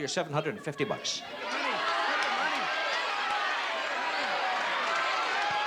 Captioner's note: cheering